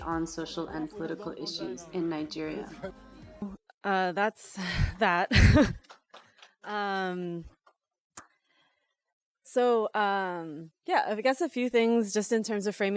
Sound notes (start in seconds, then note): 5.5 audience claps